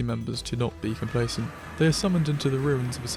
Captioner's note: warp mp3